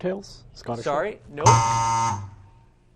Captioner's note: buzzer